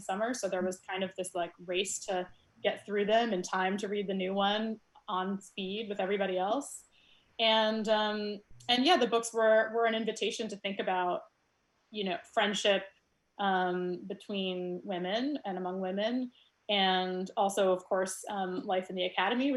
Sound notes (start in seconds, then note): none